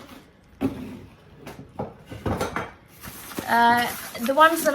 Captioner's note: things clatter